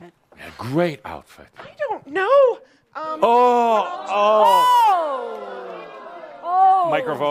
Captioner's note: audience responds “Ohhhhh!”